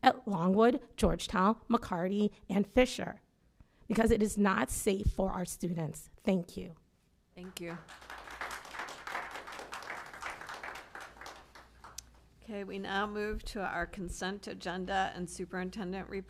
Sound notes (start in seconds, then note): 7.4 applause